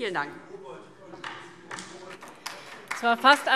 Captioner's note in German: Beifall DIE LINKE